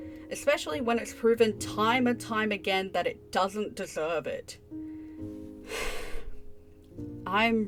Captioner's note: sigh